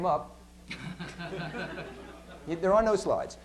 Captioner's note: laughter